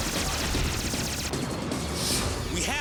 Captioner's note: artillery fires